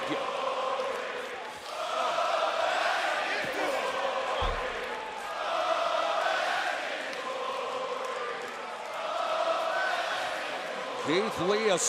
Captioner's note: crowd cheering